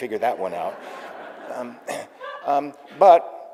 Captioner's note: audience laughing